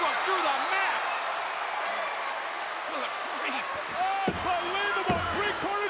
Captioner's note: applause